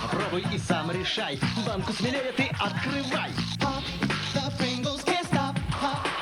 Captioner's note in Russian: хруст